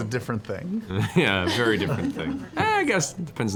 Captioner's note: laughs